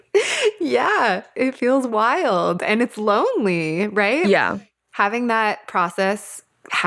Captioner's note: laughs